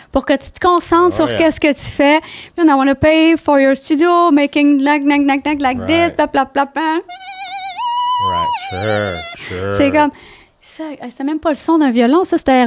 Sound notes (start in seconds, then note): 0.2 in french; 7.1 squeaking sound; 9.3 in french